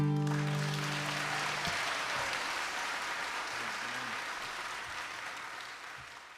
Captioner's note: applause